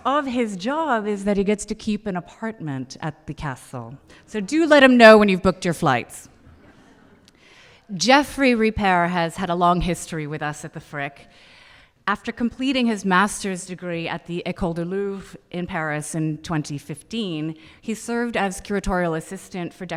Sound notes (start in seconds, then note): 6.4 audience laughing